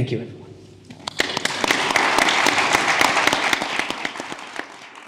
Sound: audience applause

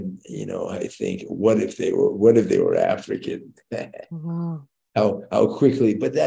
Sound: chuckles

